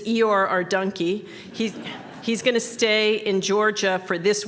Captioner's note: laughter